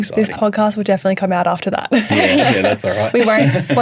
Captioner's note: laughs